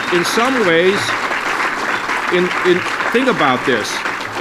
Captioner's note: applause